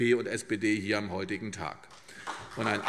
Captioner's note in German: Beifall CDU und BÜNDNIS 90/DIE GRÜNEN